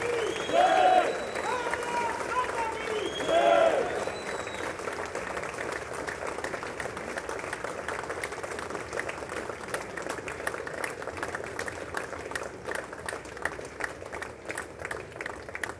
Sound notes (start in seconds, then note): 4.6 applause